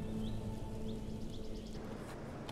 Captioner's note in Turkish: Kuş cıvıltısı sesi